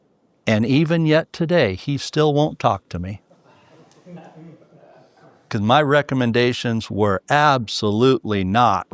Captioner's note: laughing